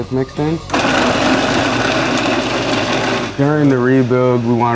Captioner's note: mixer whirring